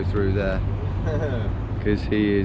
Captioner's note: laughing